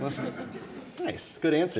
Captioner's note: audience laughing